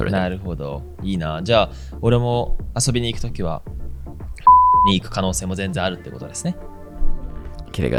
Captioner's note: beep